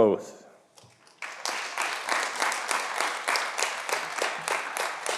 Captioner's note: audience applauding